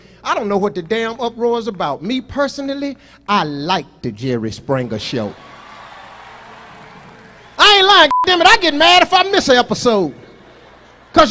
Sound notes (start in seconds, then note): 5.0 audience cheers